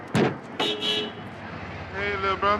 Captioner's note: car honking